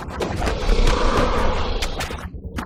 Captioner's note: META hissing